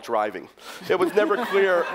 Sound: laughter

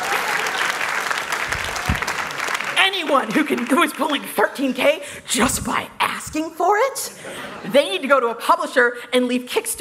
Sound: applause

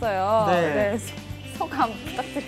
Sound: holding laughter

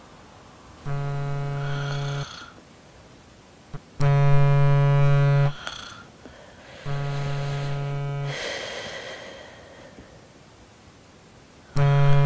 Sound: snoring; phone vibrating

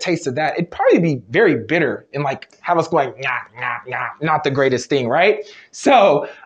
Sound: chewing noises

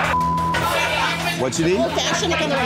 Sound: beep

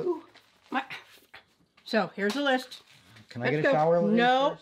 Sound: sighs

